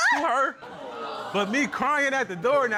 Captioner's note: exclaims; audience gasps